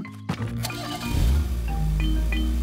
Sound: engine starting

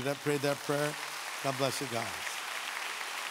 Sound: audience clapping

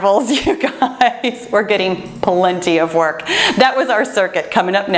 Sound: laughs

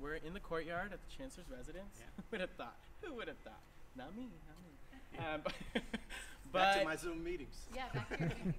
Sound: laughter

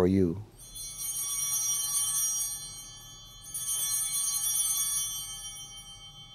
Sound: bell ringing

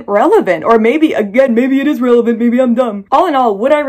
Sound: mocking voice

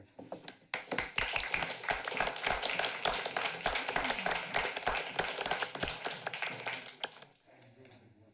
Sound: applause

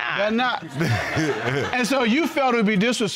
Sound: all laughing

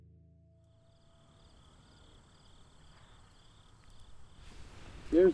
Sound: crickets chirping

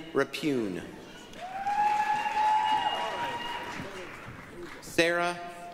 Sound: applause, cheering

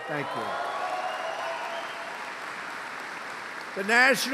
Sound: applause

